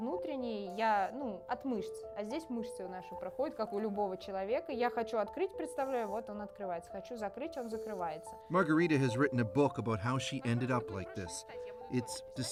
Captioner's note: speaking russian